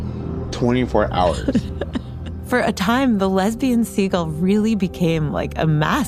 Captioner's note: laughs